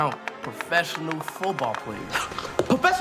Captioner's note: scoffs